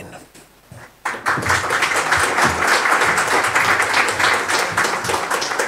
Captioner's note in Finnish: Aplodeja